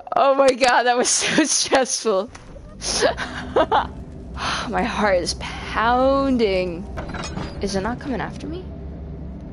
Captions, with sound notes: oh my god (laughing) that was so stressful.... (laughing) (sigh) My heart is pounnnnding. Is it not coming after me?